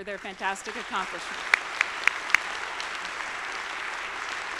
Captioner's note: audience applauding